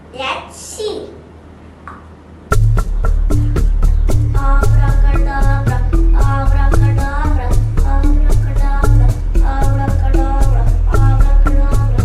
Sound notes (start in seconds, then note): 3.1 some chanting